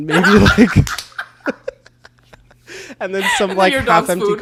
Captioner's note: both laugh